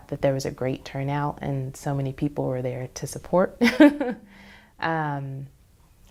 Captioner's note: laughs